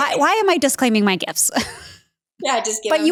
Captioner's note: Danica laughs